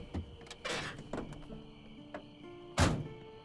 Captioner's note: engine shuts off; crickets chirping